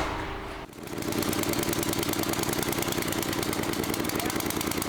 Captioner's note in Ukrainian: Звук генератора